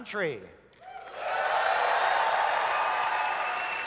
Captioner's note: audience cheers